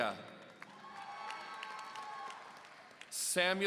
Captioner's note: audience cheering